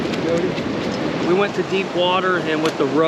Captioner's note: fish splashing